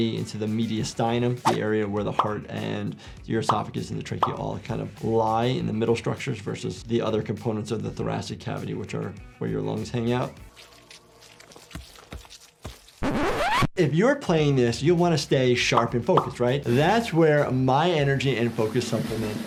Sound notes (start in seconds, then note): 10.4 flesh squelching; 13.0 disk scratches